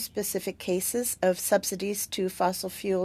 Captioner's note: speaking French